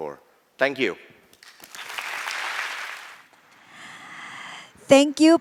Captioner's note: applause